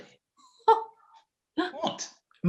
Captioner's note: laughing softly